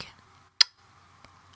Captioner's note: kiss